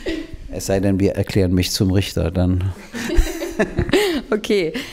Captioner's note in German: Lachen